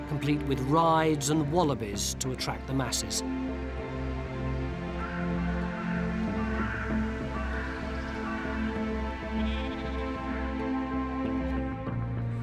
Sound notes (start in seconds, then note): 4.2 pensive music; 6.2 crows cawing